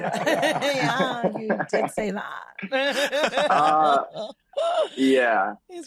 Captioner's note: all laugh